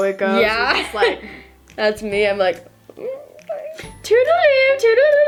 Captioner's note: making scared noises